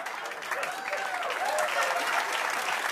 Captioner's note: laughter and applause; cheering